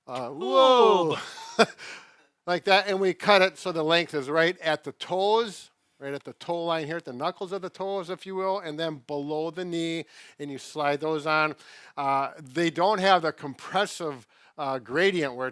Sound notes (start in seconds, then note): 1.0 chuckling